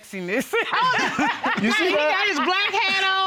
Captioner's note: all laughing